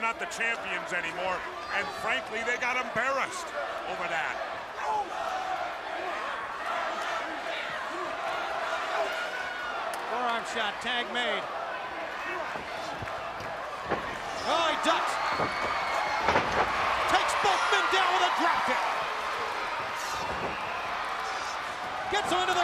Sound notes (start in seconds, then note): 4.9 crowd cheering; 5.9 crowd chatter